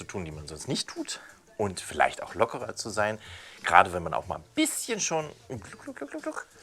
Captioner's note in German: Trinkgeräusch